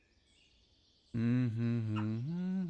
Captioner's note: greenhouse interior, insects, birds chirping, water trickling